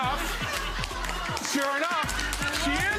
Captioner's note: audience laughs